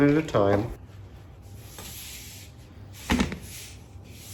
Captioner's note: mixing sounds